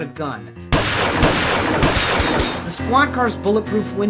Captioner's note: gun shots; glass shutters